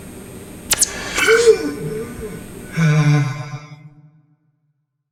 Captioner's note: Ace gasps for air